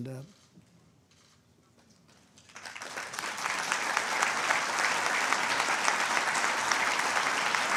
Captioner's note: applause